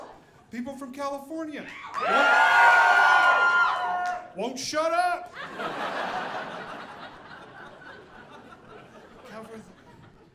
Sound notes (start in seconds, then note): 1.7 audience cheering; 5.4 audience laughing